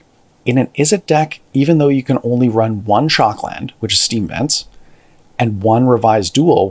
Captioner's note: steam Vents